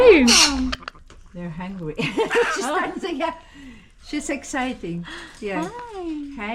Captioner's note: laughter